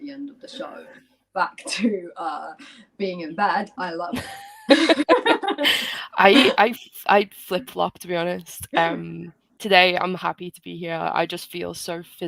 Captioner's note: laughter